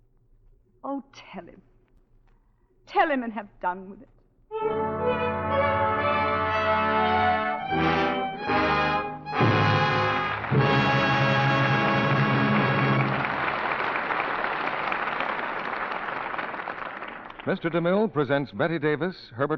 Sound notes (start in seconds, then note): 6.6 dramatic music; 9.3 audience applauding